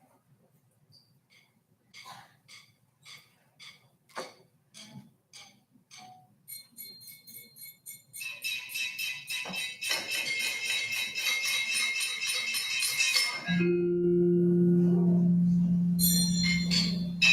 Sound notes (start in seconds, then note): 3.2 rhythmic drumstick taps; 8.6 light metallic clinking; 12.9 deep bell chimes